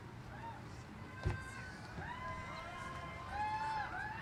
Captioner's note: cheers